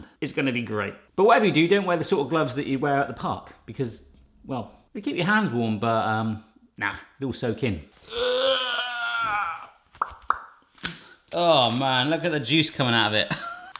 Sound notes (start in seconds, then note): 8.0 groaning; 13.3 chuckles